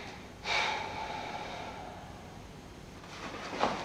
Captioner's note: Ramon sighing